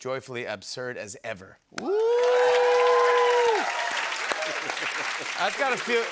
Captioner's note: cheers and applause